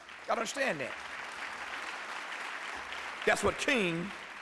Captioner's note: applause